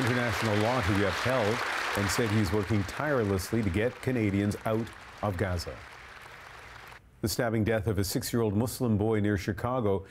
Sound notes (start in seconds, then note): 5.6 applause